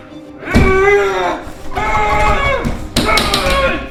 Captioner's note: Manny groaning